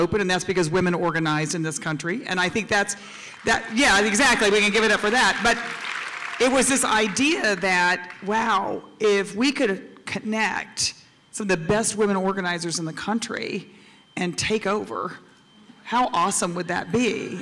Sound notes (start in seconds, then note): 2.8 applause